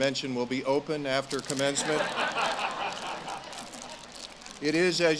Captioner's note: audience laughs